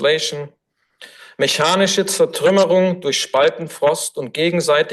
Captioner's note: foreign language